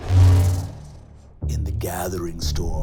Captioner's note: electronic buzzing